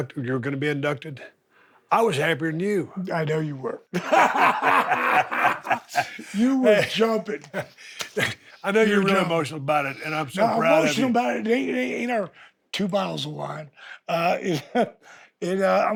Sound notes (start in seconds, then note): 3.9 both laughing; 14.9 laughs